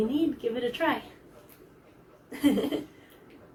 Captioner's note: laughs; giggles